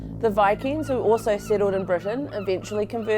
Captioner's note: tense music; seagulls squawking